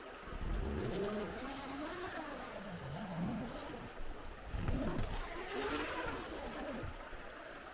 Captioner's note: sound of zipper